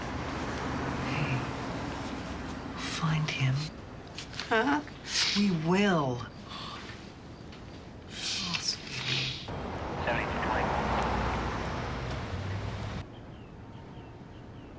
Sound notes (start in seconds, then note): 3.6 voice breaking; 5.8 sniffs